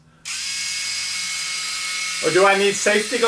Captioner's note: buzzing